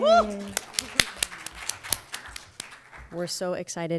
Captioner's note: audience applauding